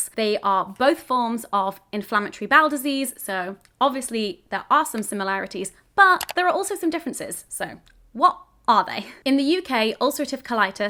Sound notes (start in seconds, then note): none